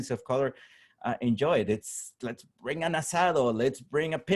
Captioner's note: spanish